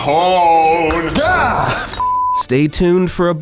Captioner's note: beep